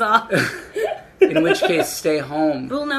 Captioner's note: laughing